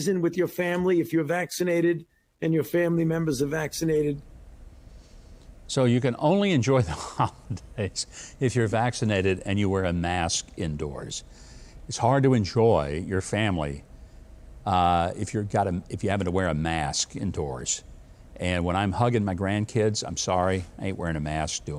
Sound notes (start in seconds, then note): 6.7 chuckles